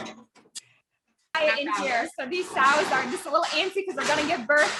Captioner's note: pigs grunting